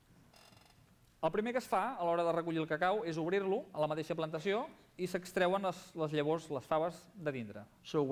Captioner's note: non-english speech